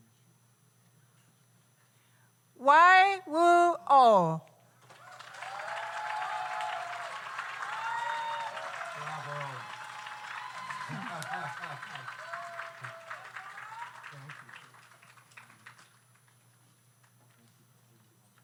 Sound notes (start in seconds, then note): 4.9 audience cheers; 5.2 audience applauds